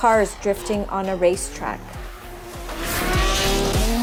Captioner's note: engines rev